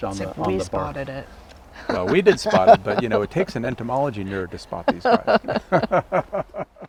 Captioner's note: laughs; all laugh